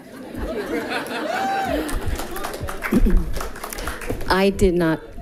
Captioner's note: people giggling